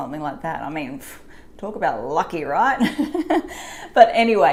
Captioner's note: laughs